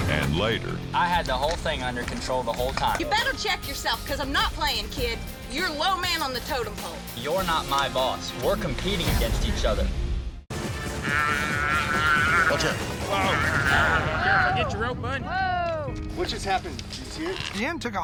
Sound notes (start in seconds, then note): 11.0 calf bellowing